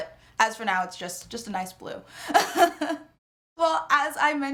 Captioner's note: laughs